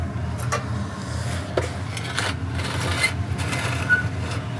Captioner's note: metal scraping